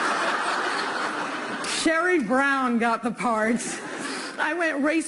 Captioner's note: laughter